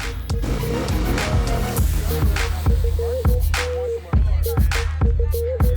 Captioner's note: hip hop music; engines revving